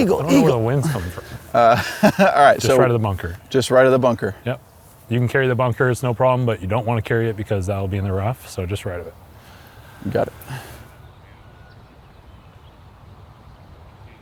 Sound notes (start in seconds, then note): 0.0 laughs